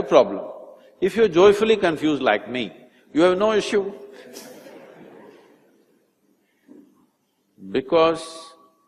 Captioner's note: laughter